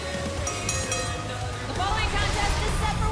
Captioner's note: bell ringing